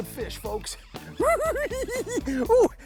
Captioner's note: cackles